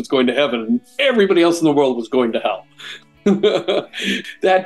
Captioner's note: laughs